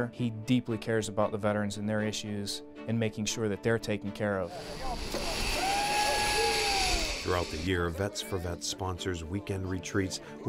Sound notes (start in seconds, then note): 6.5 line whizzing